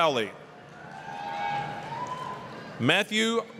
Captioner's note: applause, cheering